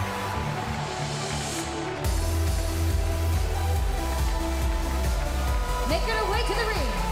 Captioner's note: crowd cheering